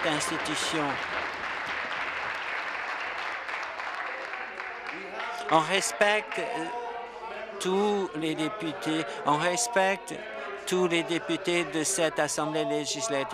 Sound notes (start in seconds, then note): 0.0 applause